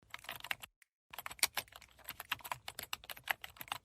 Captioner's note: keyboard typing